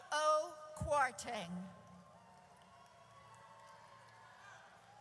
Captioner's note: audience cheers